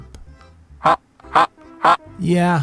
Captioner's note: robotic Ha Ha Ha